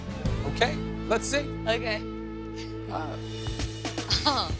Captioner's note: laughs